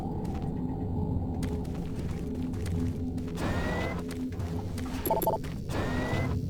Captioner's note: beeping